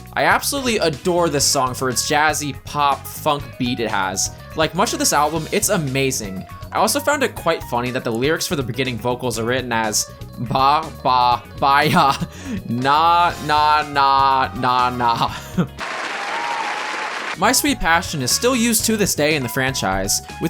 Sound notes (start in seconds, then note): 10.3 slowly breaks into laughter; 15.8 funny applause from the hit MGM animated series Tom and Jerry